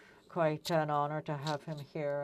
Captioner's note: speaking French